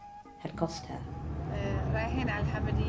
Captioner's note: speaks in Arabic